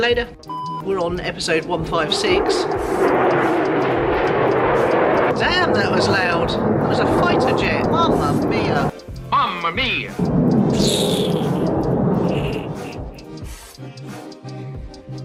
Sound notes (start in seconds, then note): 0.4 off air beep; 1.4 jet engine; 12.4 soothing music